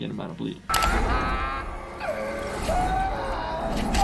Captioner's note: screaming